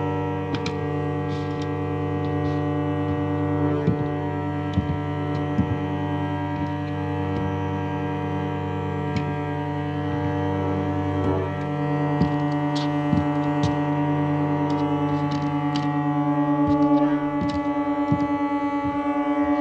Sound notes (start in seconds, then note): 0.7 discordant music; 0.7 footsteps plodding